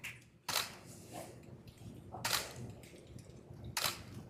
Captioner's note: camera clicking